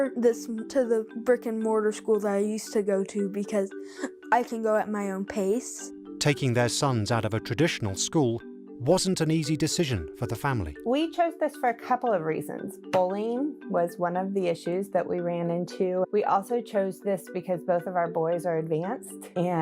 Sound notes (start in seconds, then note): 6.3 voiceover